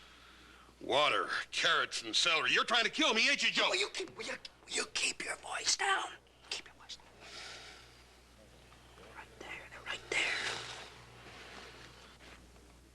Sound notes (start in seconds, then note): 4.8 whispering